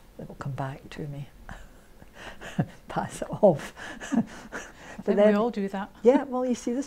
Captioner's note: laughs